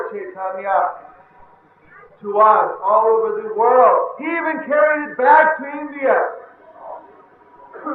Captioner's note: laughter